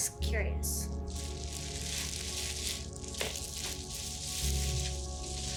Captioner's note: bag rustling